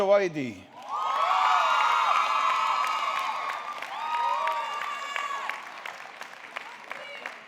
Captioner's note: audience clapping; audience cheering